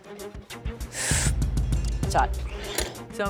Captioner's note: inhales sharply